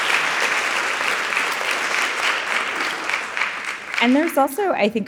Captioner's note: audience applauding